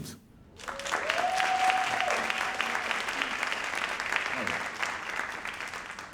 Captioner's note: audience cheering and applauding